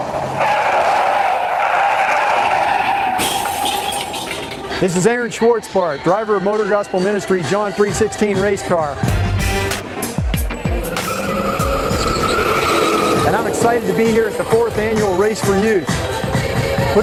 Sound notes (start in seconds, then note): 0.0 tires screeching; 3.1 glass shatters; 12.1 tires screeching